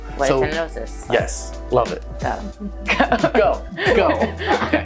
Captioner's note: laughs